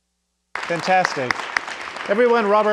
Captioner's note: audience applauding